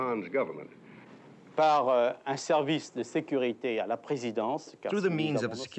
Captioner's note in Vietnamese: Tiếng Pháp